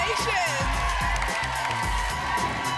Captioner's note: applause and cheering